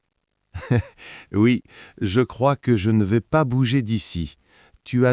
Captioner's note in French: rire